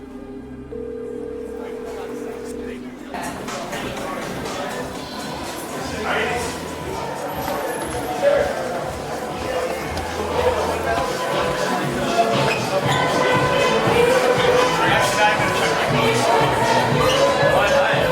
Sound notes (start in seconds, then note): 0.7 dial tone ringing; 1.2 guests chattering; 6.2 upbeat music